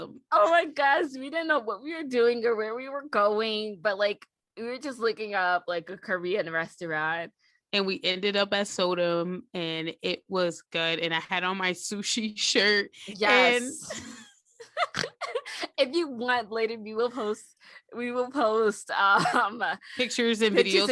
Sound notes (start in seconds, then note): 13.9 snort; 13.9 wheeze